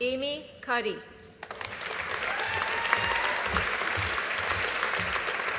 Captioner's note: audience applauding